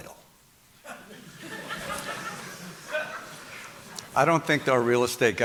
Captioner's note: audience laughing